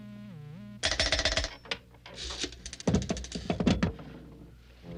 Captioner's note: bell clattering